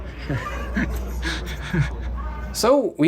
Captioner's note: laughing nervously